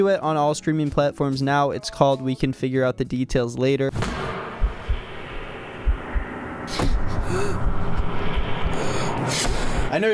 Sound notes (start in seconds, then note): 4.5 heart beating; 7.1 gasping loudly